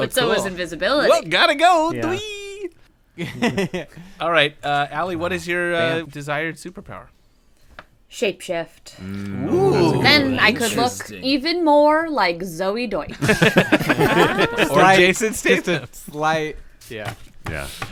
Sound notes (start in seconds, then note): 1.5 hero voice; 3.2 laughter; 13.1 laughter